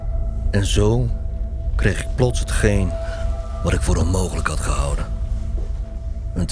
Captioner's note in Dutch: voice-over